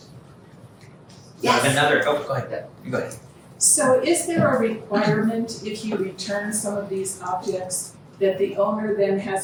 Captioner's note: audience member speaking